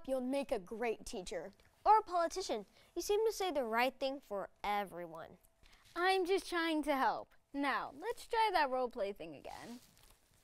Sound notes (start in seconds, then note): none